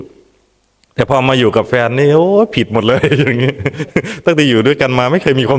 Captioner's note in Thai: เสียงหัวเราะ